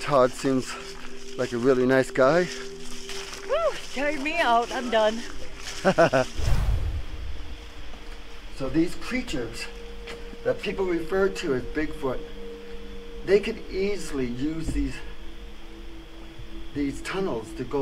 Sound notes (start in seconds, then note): 5.8 chuckles